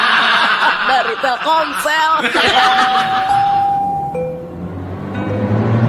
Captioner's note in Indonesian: tertawa